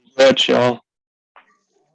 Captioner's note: foreign language